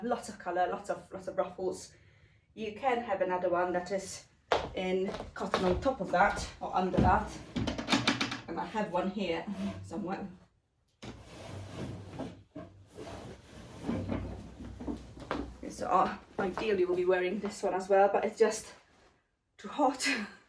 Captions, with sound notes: Lots of color, lots of ruffles. You can have another one that is in cotton on top of that or under that. And I have one here somewhere. (drawers opening and closing) So ideally, we'll be wearing this one as well but it's just too hot.